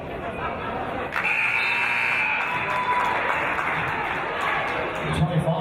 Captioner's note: buzzer; applause